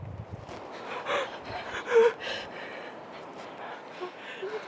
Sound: sobbing

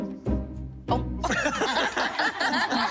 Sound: laughter

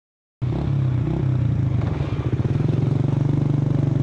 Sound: engine purring

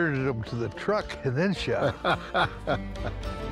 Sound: laughs

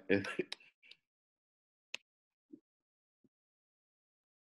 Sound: chuckles

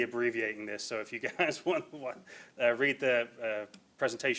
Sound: laughs

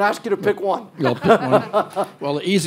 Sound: audience laughter

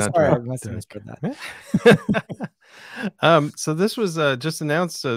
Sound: laughing

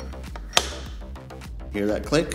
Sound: bolts threading; click

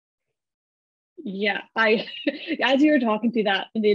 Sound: chuckles

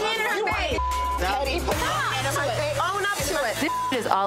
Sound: beep

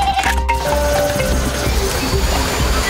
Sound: bleating; clicking; whirring

